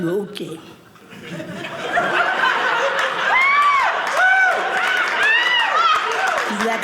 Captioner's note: audience laughing